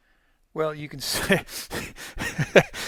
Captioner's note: he laughs